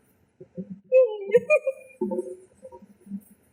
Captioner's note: "white" noise